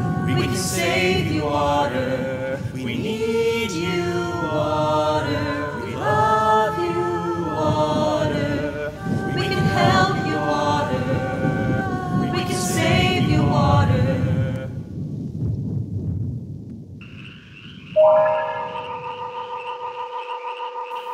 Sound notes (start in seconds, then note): 15.1 thunder rumbling; 17.9 eerie music